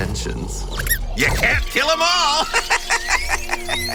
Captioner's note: laughs